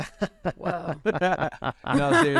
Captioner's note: laughter